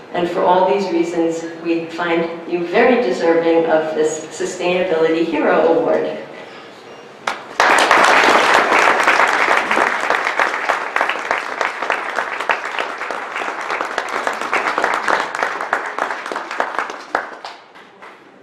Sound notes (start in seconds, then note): 7.2 audience clapping